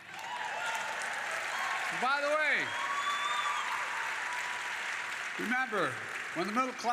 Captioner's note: applause